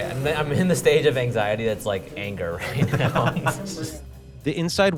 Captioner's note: laughs